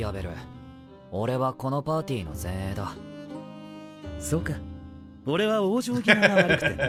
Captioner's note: speaking Japanese